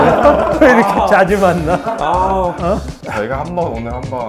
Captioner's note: buzzing like a mosquito